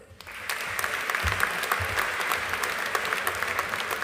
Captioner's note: audience applauding